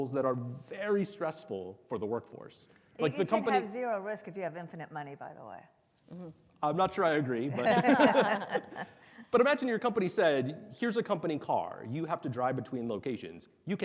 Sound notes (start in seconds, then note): 7.6 panelists laugh softly